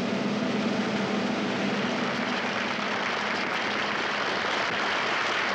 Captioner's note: audience applauds